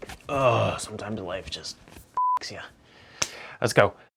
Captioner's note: beep